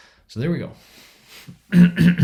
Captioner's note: clears throat